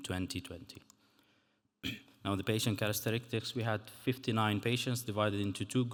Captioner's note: clears throat